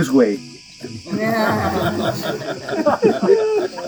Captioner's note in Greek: γέλια